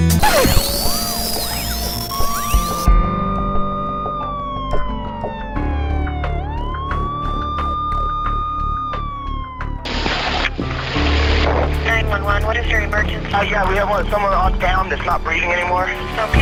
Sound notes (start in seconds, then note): 3.9 sirens are heard